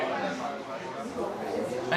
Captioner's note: restaurant patrons talk loudly